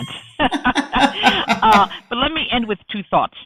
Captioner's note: laughing